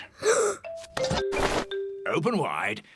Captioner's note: gasps